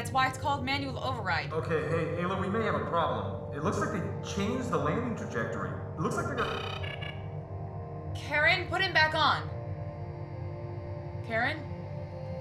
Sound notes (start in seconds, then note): 6.3 negative alert